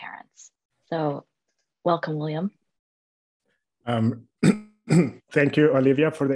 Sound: cough

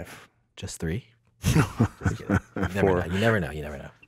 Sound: laughs

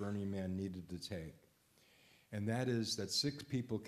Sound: none

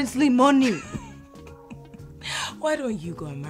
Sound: Efosa laughs

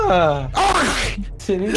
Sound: arf!

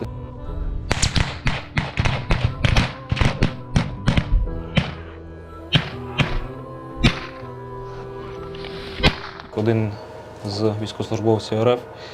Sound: gunshot sound

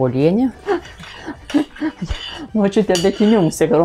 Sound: laughs in Lithuanian

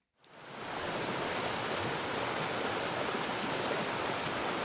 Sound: water falling

